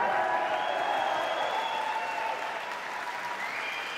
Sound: cheers and applause

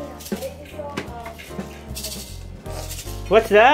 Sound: box rattles

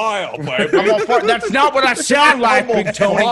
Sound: laugh

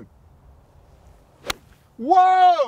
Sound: swack

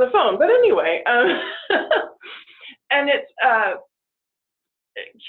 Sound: laughing

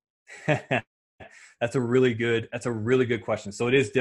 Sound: laughing

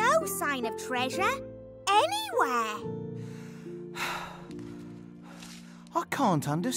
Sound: Pootle sighs

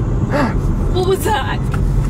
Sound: gasps

